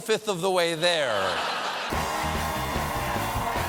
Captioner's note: laughter